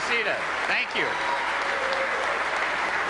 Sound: applause

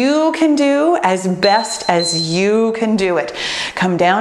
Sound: timer beeps

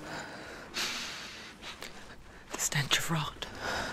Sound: inhales

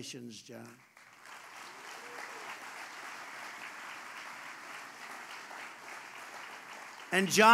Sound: applause

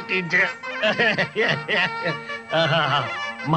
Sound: laughs

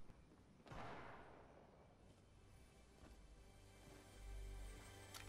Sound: gunshots in the distance

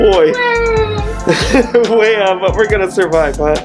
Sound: fake cries

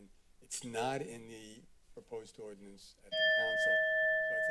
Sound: alarm sound

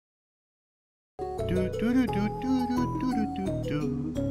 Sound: humming

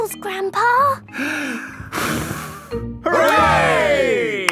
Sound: breathes deeply, blows

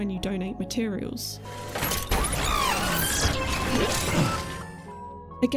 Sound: road Paver mechanizing

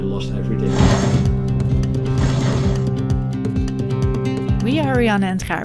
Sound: upbeat music; winch rattles

